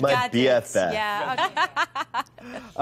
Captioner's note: laughing